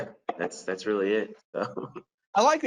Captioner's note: laughs